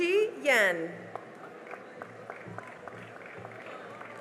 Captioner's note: cheering and applause